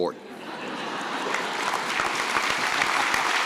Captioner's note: laughter and applause